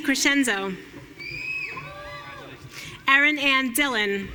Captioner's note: audience cheering